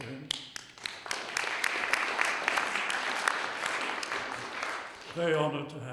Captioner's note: applause